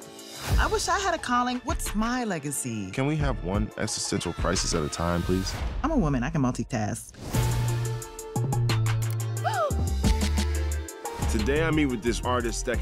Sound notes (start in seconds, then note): 9.4 gasps